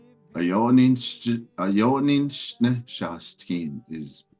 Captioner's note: speaks in Dine; member speaks in Dine